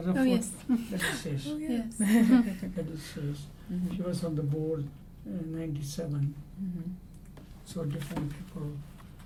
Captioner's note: laugh